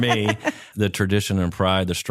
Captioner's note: laughing